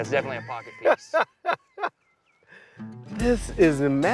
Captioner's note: Baratunde laughs